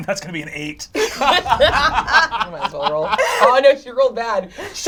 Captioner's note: all laugh